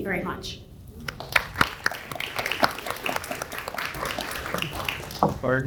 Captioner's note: audience applauds